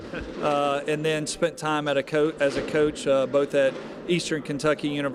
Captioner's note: laughter